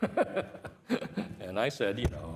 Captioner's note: laughs